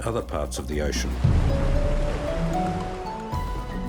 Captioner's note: waves crashing